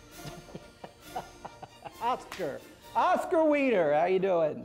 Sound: chuckling

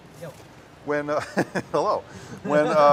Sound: chuckles

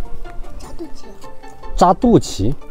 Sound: local language

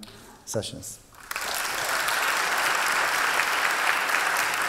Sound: applause

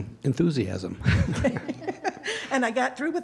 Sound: laughter

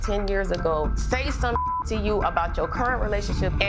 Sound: beep

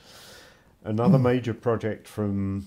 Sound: chuckles

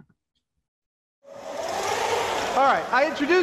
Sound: Leonardo whirring

